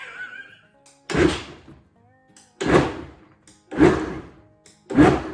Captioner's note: laughter; blender pulses